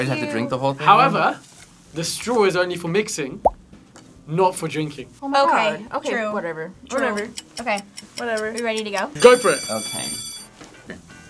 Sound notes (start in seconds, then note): 9.2 bell rings